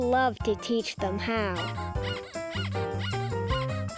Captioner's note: squeaking